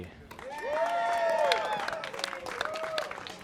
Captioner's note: cheers